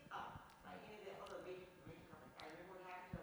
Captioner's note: speaks faintly